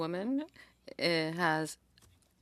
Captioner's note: speaking French